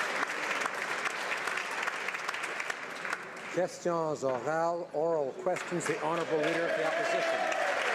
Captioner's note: some Applause